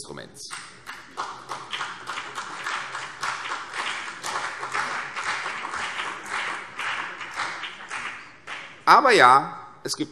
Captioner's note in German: Beifall CDU und vereinzelt BÜNDNIS 90/DIE GRÜNEN